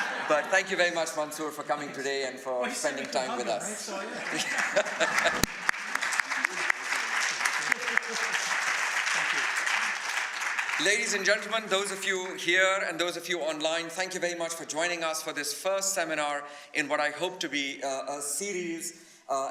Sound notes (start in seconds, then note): 4.0 laughter